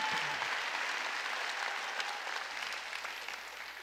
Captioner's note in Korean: 박수